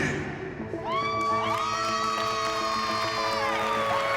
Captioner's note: song ends; applause, cheering, whooping